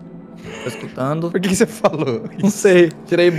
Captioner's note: laughs